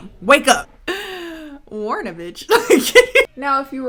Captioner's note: chuckling